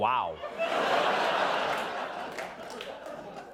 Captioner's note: laughter